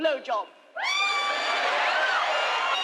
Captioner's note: crowd cheers